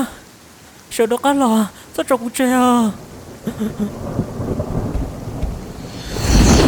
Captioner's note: laughter